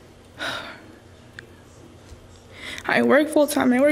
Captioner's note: exhausted sigh